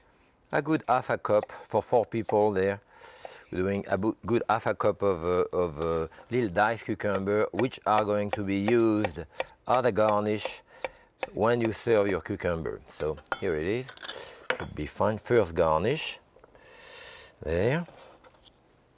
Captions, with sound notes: a good 1/2 cup for four people there. A good 1/2 cup of little diced cucumber, which are going to be used (knife tapping) as a garnish when you serve your cucumber, so here it is, should be fine, first garnish there.